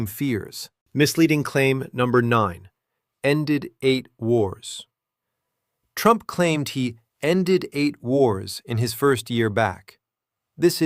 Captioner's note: sarcastic